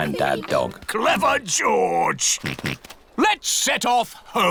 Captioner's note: snorts